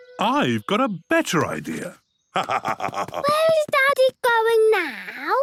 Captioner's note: laugh